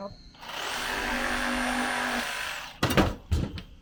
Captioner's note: saw buzzing